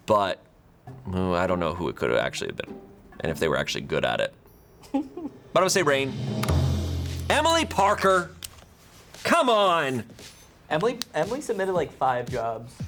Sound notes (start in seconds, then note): 4.6 tense music building; 6.5 button clicks